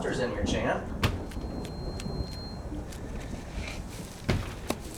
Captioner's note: tapping, dragging